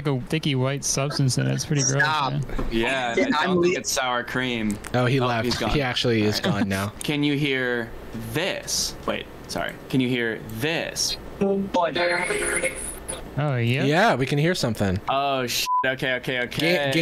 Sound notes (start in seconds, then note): 11.9 electronic noise